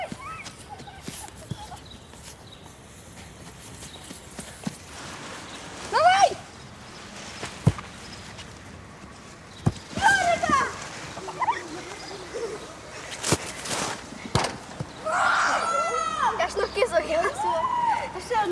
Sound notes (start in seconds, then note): 11.1 boys laughing; 15.0 victorious cry